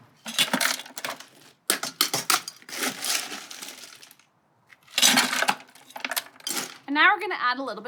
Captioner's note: ice cubes dropping